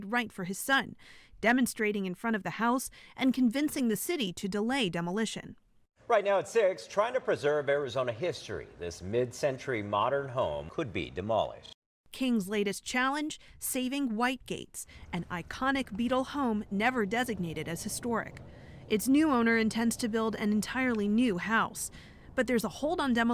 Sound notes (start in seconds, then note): 12.6 voice-over